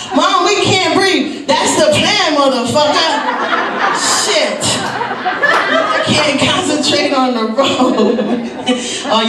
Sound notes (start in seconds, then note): 2.8 audience laughs; 8.5 chuckles